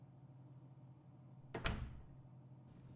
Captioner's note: door closes